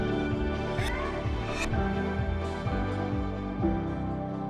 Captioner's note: graphic whooshes